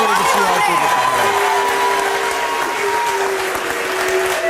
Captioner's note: audience applauds